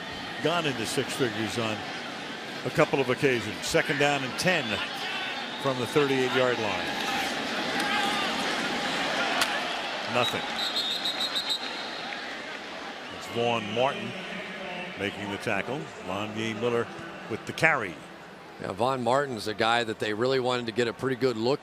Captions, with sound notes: And it's gone into six figures on a couple of occasions. Second down and 10 from the 38-yard line. Nothing. [whistles] Vaughn Martin making the tackle. Lonyae Miller with the carry. Yeah, Vaughn Martin is a guy that they really wanted to get